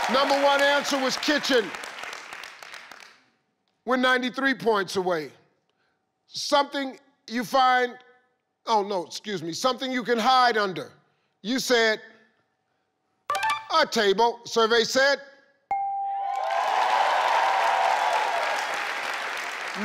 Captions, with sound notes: Number one answer was kitchen. We're 93 points away. Something you find, oh, no excuse me. Something you could hide under. You said, a table. Survey said. (tone dinging) (audience clapping and cheering)